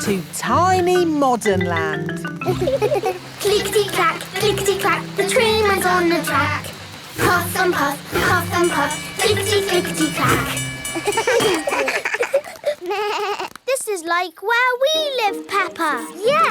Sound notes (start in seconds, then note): 2.4 laughing; 10.9 all laugh